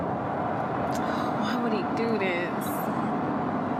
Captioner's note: sighs